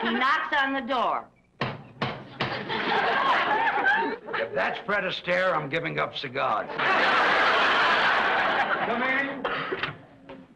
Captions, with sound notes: He knocks on the door. (knocking on door) - If that's Fred Astaire, I'm giving up cigars. (audience laughs) Come in.